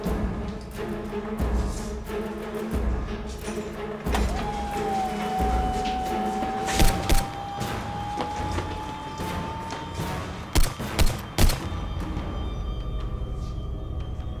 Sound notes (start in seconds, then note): 6.6 gun firing